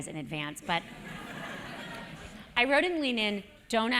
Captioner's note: laugh